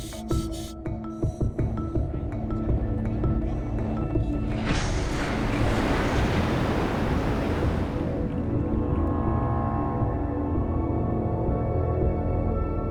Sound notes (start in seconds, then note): 1.1 gentle xylophone music; 4.5 water splashing